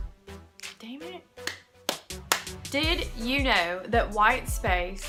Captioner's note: clap, Clap, Clap